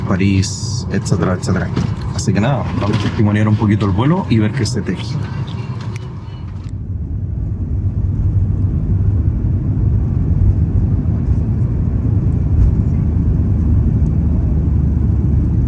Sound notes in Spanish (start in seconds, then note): 5.1 Sonido de despegue del avión